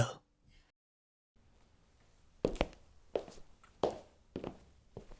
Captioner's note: sound of footsteps